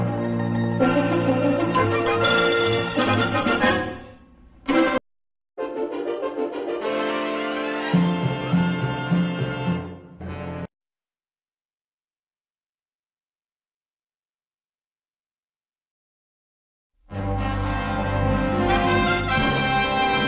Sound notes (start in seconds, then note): 11.0 silence; 17.1 old-fashioned music playing